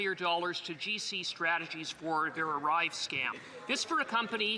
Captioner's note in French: voix de l'interprète